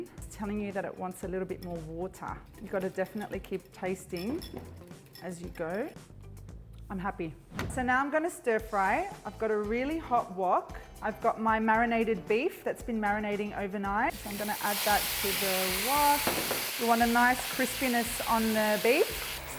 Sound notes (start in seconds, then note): 4.1 metal and glass clanking; 7.5 whooshing; 14.1 food spattering